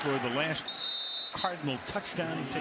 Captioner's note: whistle blows